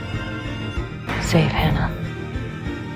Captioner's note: voiceover